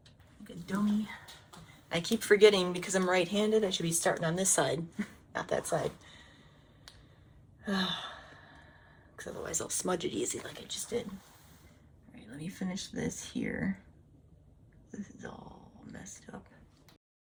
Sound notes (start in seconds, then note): 6.1 exhaling loudly